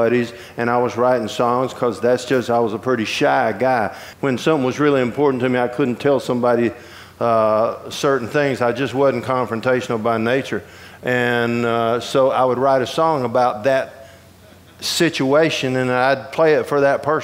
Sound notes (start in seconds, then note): none